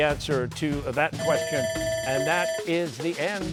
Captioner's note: bell ringing